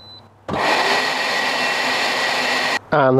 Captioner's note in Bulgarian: въздушно изпомпване